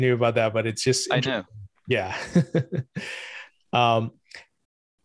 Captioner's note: chuckles